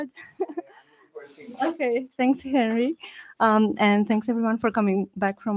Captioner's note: laughs